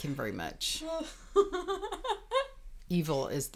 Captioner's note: laughing